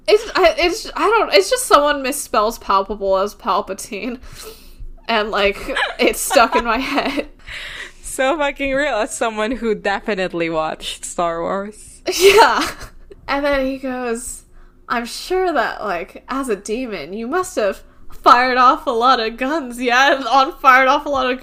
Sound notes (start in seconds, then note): 5.6 laughs; 12.4 laughs